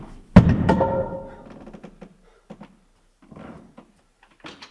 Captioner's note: board thuds